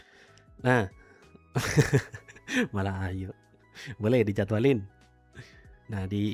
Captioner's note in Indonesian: tertawa